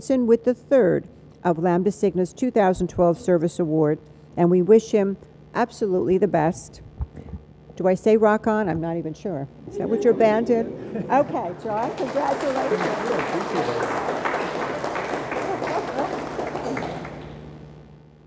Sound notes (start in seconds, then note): 10.5 audience laughs